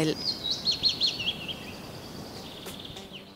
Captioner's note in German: Vögel zwitschern